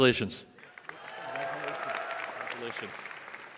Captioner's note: cheering